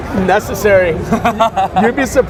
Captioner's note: laughing